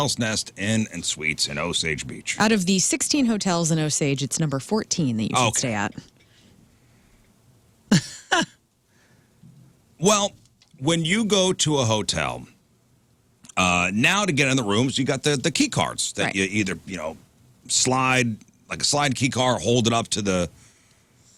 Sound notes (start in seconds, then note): 8.0 laughs